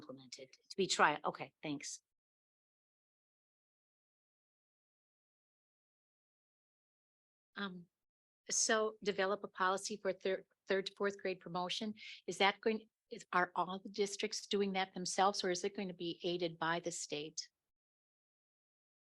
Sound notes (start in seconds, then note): 5.8 silence